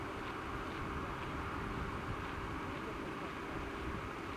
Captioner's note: none